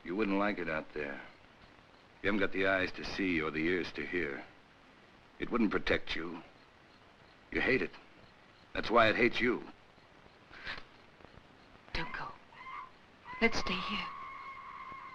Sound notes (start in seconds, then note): 11.9 screeching in the jungle